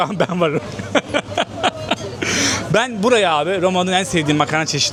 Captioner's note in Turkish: kahkaha